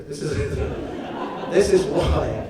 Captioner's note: audience laughs